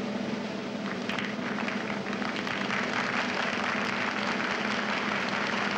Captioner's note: audience applauds